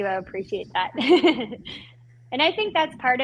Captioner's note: laughing